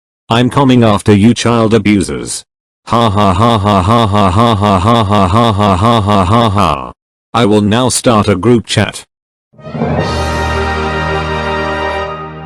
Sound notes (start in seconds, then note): 5.7 evil laugh